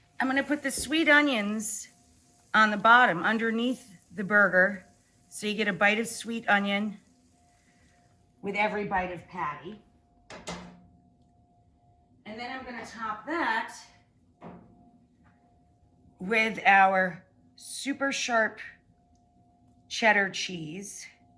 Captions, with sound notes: I'm gonna put the sweet onions on the bottom, underneath the burger, so you get a bite of sweet onion with every bite of patty. (pan clanks) And then I'm gonna top that with our super sharp cheddar cheese.